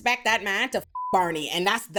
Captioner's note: beep